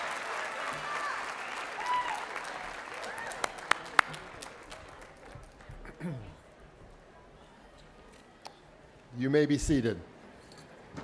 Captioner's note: cheers and applause